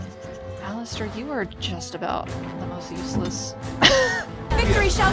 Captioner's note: laughs